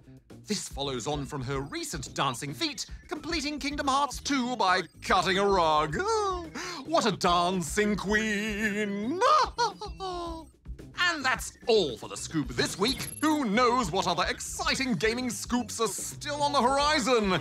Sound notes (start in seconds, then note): 7.4 sings; 9.1 laughs